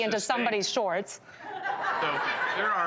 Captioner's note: laughter